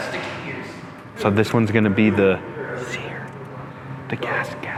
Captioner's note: whispers